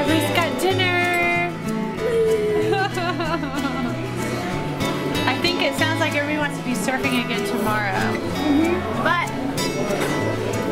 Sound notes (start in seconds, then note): 2.0 chuckling